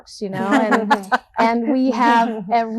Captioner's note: all laughing